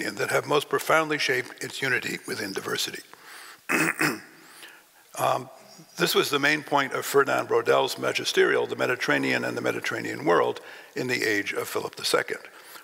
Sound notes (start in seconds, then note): 3.7 clears throat